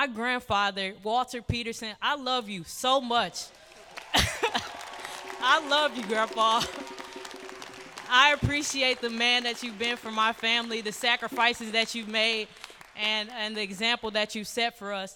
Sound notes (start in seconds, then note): 4.6 applause; 6.1 applause